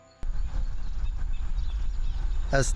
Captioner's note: bird noise